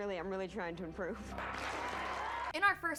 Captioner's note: applause